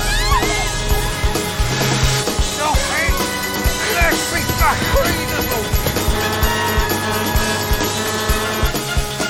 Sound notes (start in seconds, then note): 2.1 shouting; 5.8 horn honking